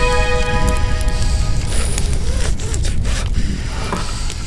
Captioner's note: Alferd breathes painfully